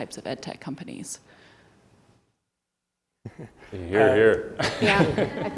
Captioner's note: laugh